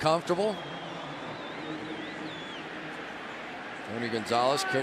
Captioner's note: pa announcement